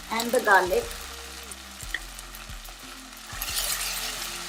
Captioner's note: pan sizzles